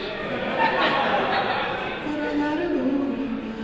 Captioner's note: laughter